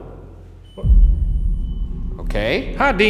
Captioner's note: divide beeps